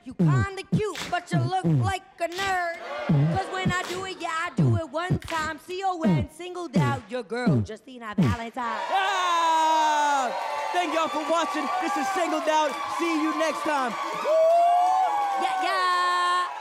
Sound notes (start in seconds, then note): 8.9 audience cheers